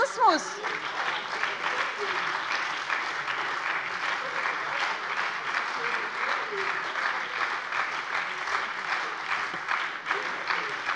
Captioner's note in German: Anhaltender Beifall bei der SPD und bei Abgeordneten der FDP